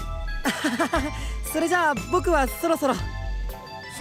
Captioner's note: awkward laugh